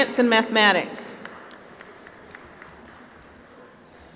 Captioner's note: applause